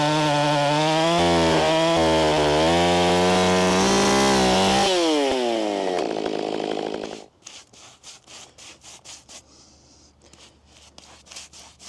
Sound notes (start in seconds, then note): 0.0 chainsaw whirring; 7.3 brush rustling